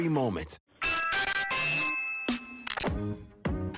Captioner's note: doorbell chimes; bouncy music